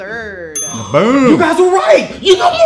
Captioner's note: bell dinging; group gasping